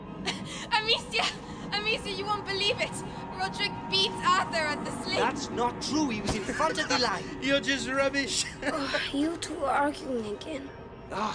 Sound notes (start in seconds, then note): 0.7 chuckles; 6.3 laughs